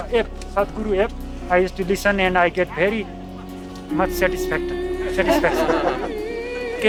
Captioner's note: laughter